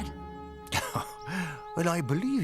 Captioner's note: laughs